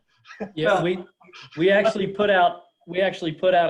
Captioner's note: laughs